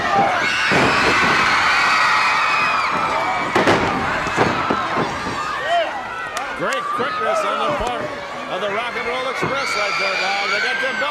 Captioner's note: crowd cheering